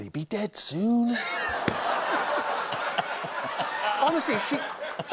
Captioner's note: laughter